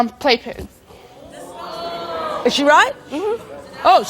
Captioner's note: audience boos